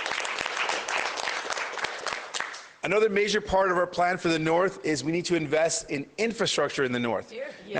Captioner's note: applause